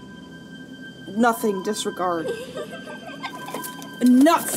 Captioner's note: child giggles